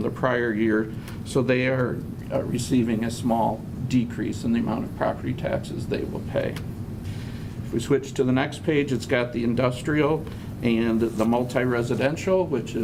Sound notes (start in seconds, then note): none